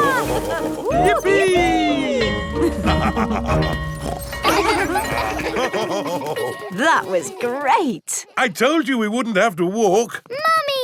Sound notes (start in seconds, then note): 2.5 both laughing; 2.7 school bell ringing; 4.0 daddy pig snorts; 5.6 children laughing; 5.6 daddy pig laughing